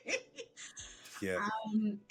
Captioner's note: laughs